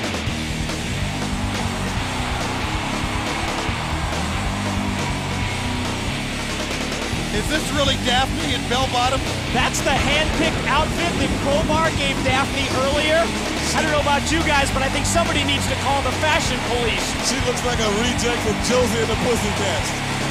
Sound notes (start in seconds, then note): 2.0 crowd cheering